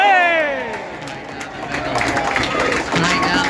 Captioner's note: applause